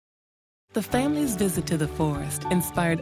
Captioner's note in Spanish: Voz En Off